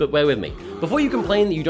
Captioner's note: bear growl